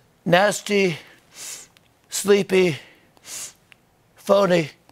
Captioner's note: sniffs; sniffs